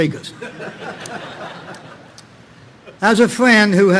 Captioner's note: audience laughing